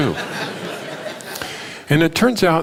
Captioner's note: laughter